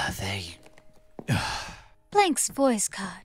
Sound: sigh

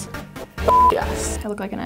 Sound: beep

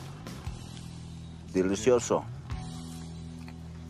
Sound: speaking in foreign language; tense suspenseful music

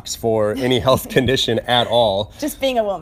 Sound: laughs

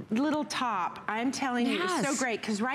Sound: laughter

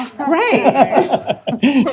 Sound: laughter

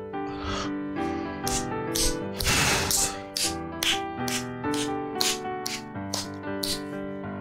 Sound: slow clapping

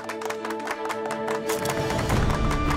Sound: clapping

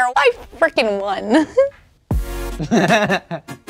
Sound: upbeat music; Daryl chuckling

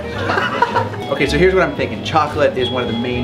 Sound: laughs

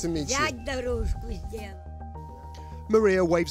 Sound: speaking in foreign language

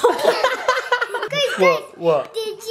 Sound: laughing

